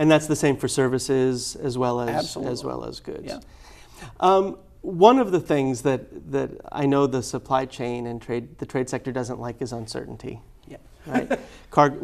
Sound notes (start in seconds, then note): 11.1 laughs